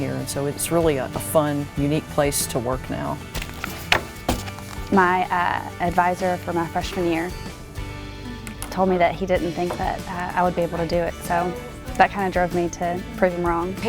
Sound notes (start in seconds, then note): 3.2 papers shuffle